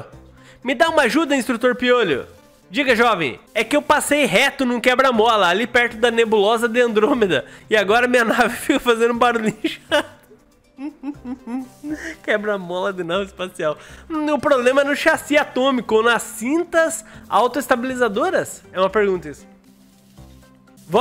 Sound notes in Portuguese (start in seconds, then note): 12.4 risos